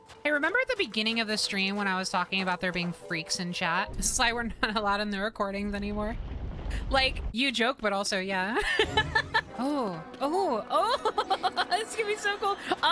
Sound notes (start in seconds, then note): 8.5 laughter